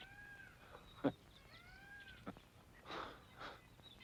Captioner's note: chuckles